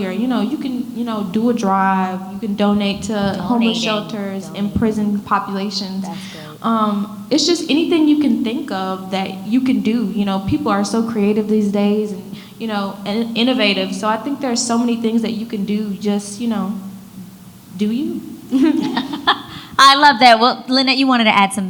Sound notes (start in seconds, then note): 18.5 laughs